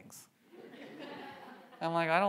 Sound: audience laughs

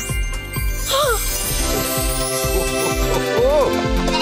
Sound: gasping; bleating

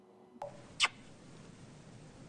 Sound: kisses

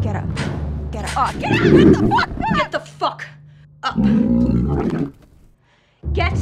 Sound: creature growling

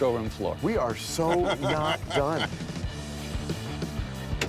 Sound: laughs

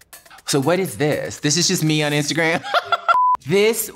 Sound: laughs

